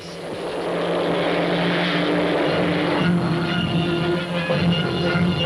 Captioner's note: aircraft zooming; dramatic theme music